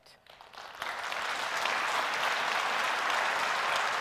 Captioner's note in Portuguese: Aplausos